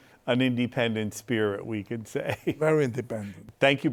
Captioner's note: laughs